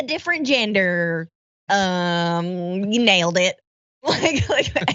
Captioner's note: laugh